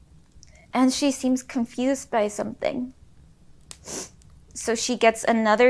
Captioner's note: sniffles